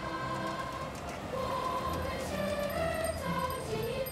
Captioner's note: bicycle Bells Ringing